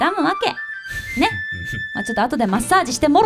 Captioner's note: snorts